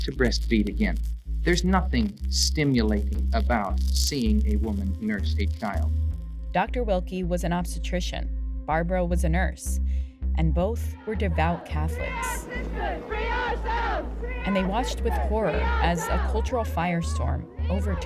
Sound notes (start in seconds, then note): 11.4 soundbite of archived recording; 13.1 chanting